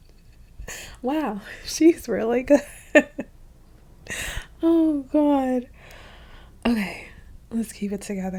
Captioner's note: laughing